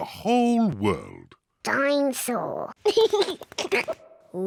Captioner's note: giggles